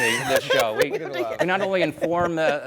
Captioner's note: laughing